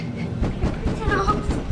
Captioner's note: sound of knocking on door